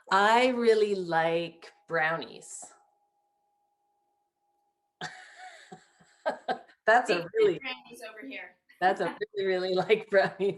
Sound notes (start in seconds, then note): 4.9 laughing